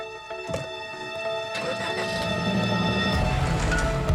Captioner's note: starts car